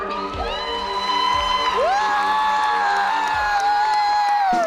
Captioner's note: applause and cheers